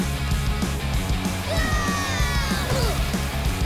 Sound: screaming

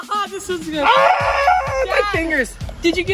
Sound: mockingly; cry of pain

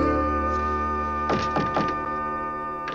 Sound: knocking

